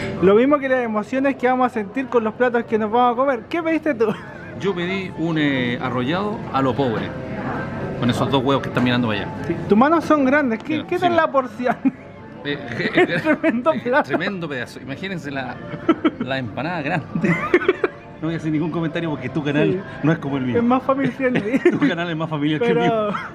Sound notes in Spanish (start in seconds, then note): 12.6 risas